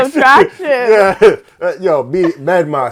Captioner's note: laughs